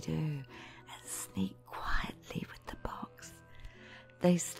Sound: whispering

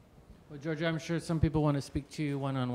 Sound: voiceover

